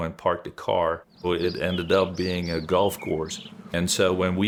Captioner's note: birds chirping